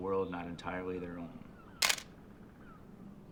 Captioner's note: camera snaps